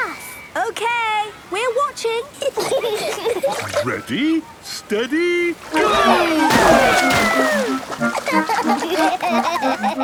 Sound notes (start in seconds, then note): 2.4 giggling; 7.9 giggling